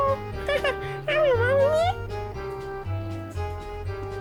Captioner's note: gibberish language